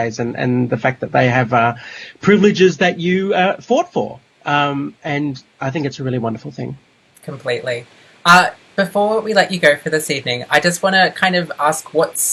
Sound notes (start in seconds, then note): none